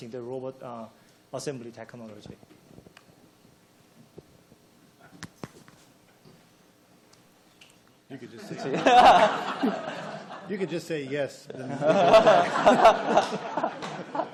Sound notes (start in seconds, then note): 8.5 laughing; 11.6 laughing